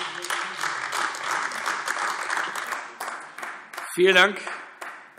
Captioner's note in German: Beifall